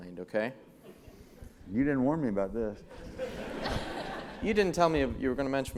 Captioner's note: laugh